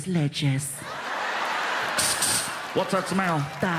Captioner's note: spraying